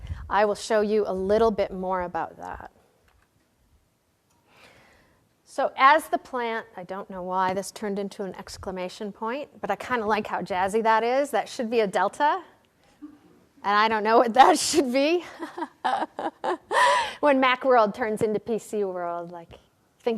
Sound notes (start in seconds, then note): 15.2 laughter